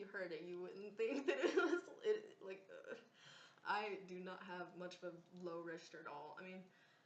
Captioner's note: laughs